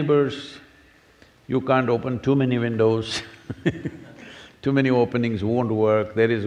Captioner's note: laughter